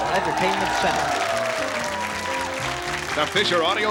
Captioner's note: audience applause